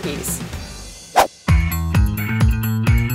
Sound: upbeat music; whooshing

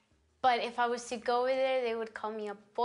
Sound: foreign language spoken

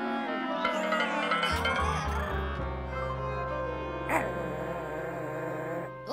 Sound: barking

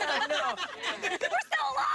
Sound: laughter

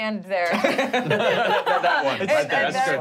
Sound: laughing

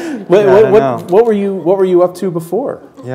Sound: chuckle

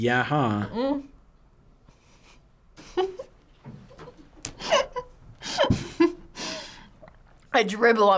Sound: laughs

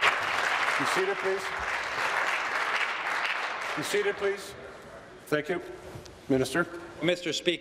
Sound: applause

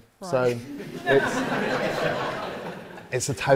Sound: audience laughs

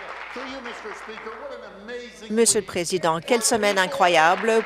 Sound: applause

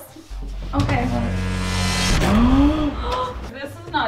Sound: buzzing

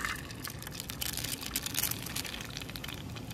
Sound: egg sizzling

